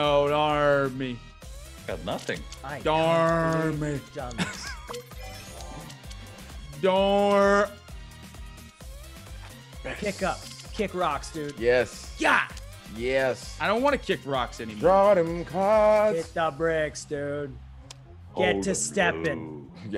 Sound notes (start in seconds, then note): 4.3 laugh